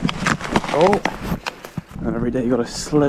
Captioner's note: more cracking